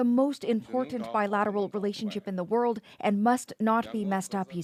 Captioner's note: speaking alternate language